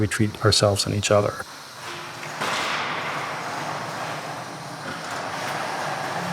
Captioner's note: air hissing